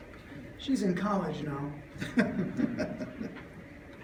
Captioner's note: laughs